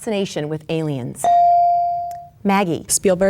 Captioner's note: bell dings